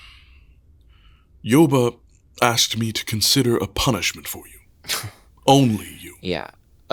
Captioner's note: sighing